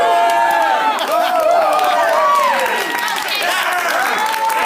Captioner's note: applause